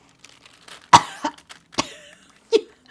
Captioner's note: coughs; laughing